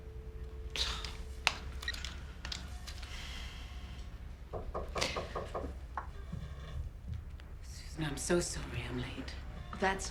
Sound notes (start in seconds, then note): 0.7 sighs; 4.5 knocking on door